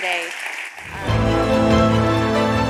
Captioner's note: applause